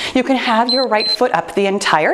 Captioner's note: timer beeps